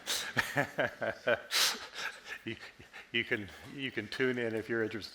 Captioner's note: chuckles